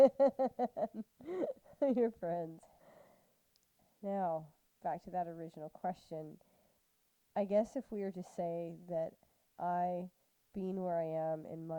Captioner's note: laughter